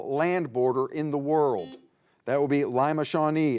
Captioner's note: buzzer beeps